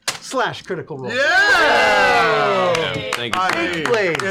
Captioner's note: cheering